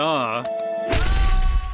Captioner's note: button press